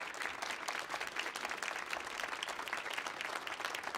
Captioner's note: audience clapping